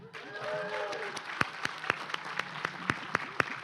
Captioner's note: applause